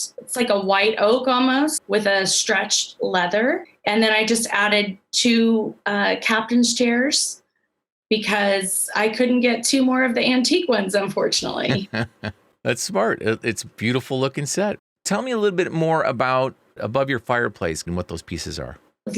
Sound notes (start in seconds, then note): 11.6 laughs